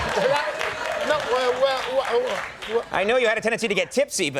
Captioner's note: audience laughing; Richard stutters